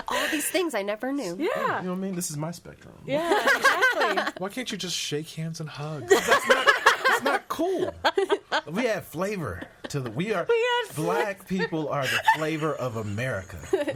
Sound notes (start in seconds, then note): 0.0 laughs; 6.0 all laughing